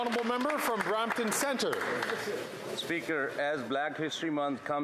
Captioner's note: some Applause